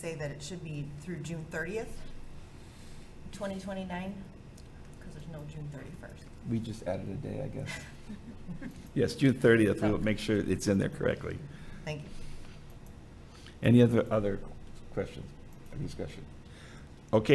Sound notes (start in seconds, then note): 7.6 laughing